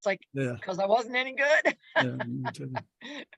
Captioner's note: laughs